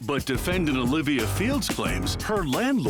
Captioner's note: none